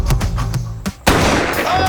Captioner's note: sound of gunshot